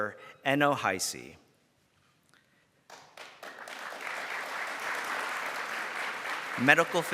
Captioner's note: round of applause